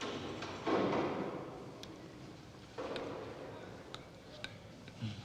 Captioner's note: cell door closing in distance